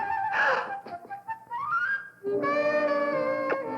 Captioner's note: gasp; romantic music